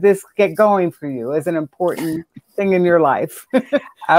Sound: laughs

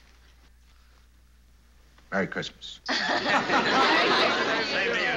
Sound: laughing

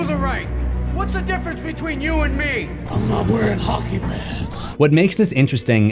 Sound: Dart with Batman voice

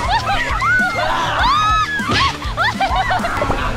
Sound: screams

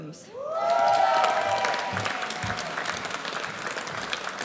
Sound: audience cheers

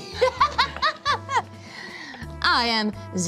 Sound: laughs

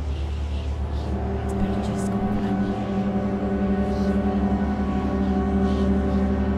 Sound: chanting in a foreign language

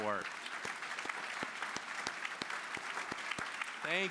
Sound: applause

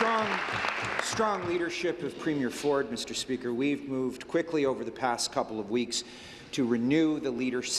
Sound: applause

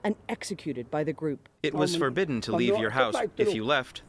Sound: through translator

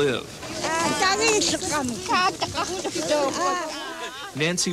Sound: speaking yup'ik dialect

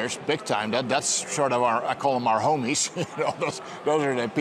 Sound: chuckles

